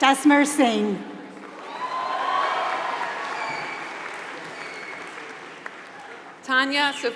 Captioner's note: applause